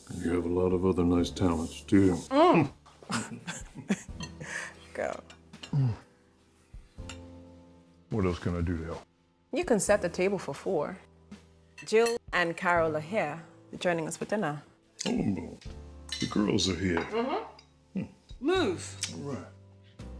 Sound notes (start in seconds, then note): 2.7 Meg groans